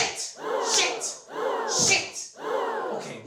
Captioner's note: audience gasps